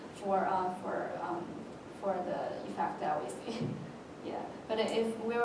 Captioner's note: laugh